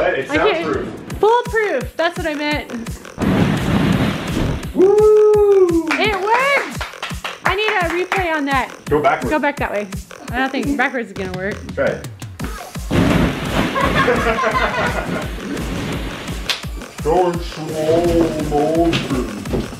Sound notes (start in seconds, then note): 3.7 cheers; 13.7 laughs